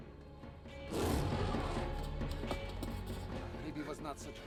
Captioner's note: growls